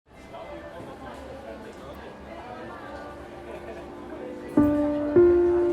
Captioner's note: chatter